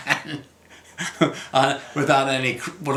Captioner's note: both laughs